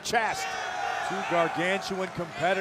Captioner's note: crowd cheers